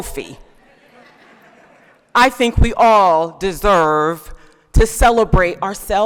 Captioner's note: laughter